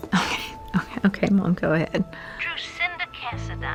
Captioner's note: chuckles